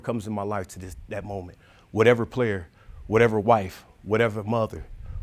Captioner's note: none